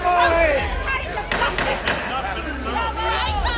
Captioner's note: crowd clamoring